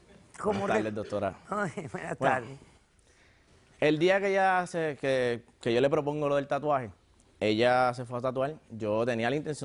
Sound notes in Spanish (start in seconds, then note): 1.0 Risas